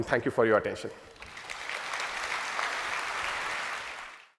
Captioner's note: applause